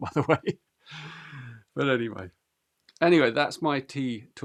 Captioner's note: laughs